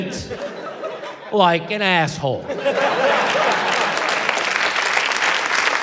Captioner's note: applause